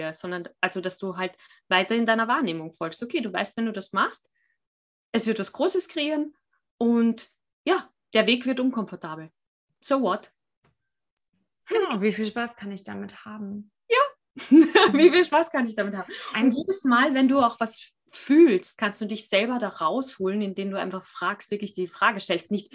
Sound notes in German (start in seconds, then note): 13.6 lachen